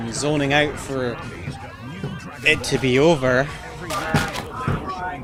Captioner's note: parents arguing in background